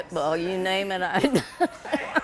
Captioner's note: laughs